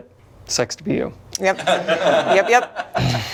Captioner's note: all laughing